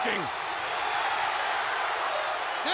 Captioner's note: crowd cheering